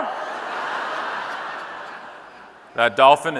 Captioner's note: audience laughing